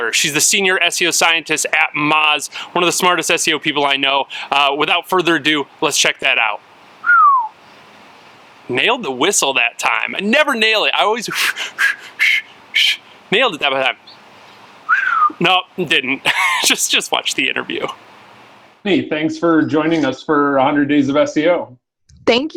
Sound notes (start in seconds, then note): 7.0 whistles; 11.2 blows air; 12.7 rolling tongue; 14.8 whistles; 15.8 laughs